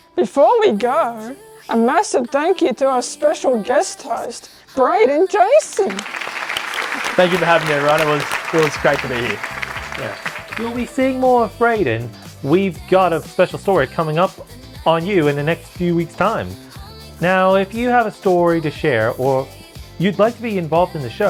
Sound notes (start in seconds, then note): 5.6 applause